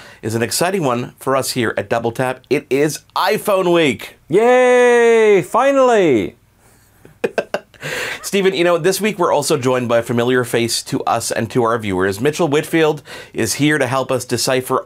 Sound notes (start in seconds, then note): 4.3 cheering sounds; 7.0 laughs